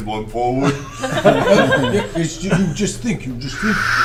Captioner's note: all laugh